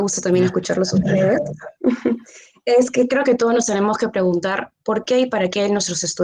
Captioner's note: laughs